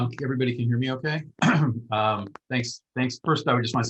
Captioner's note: clears throat